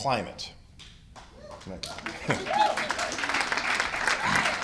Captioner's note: cheers and applause